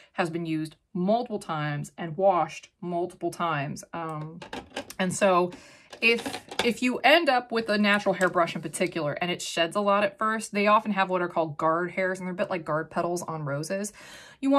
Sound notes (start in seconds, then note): 5.8 makeup brushes clanking